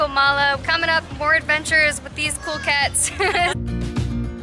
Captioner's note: laughing